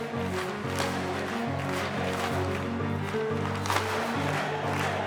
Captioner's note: exciting music; people clapping and chanting